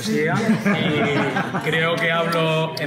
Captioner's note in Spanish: risas